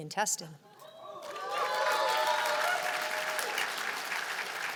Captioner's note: cheers and applause